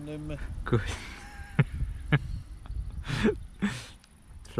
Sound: amused laughter!

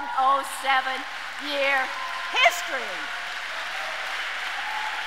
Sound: audience cheers and applauds

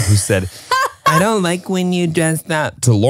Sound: laughing

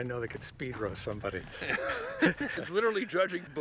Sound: Kevin and Jeff laughing

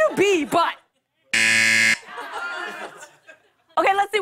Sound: buzzer

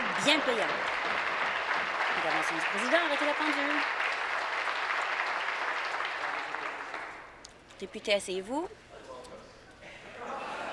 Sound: applause

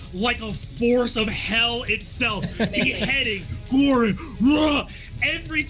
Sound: grunts

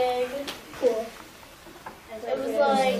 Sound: students talking

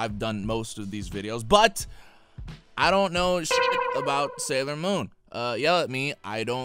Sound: beep

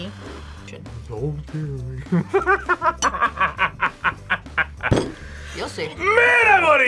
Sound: laughs

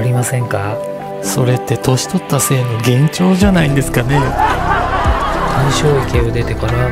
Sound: laughs

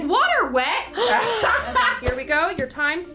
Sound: laughs; gasps

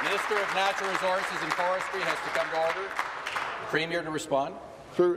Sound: applause

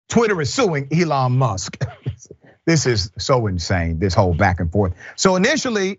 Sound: laugh

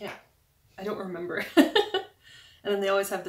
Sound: laugh

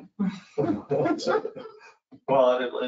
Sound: laughing

